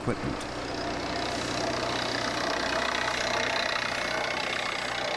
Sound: machinery whirring

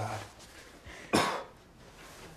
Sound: coughs

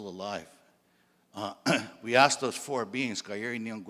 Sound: clears throat

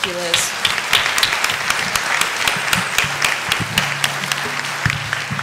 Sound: applause

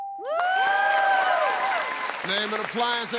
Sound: cheers and applause

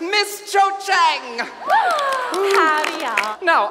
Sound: Lavender cheers; applause

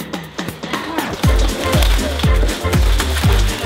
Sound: bags crinkling; bouncy electronic music

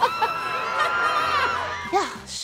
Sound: giggles; patrons screaming

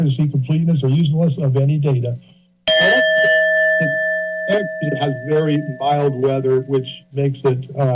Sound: bell sounds

